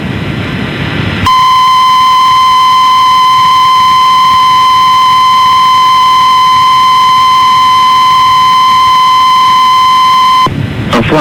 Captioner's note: beep Noise Playing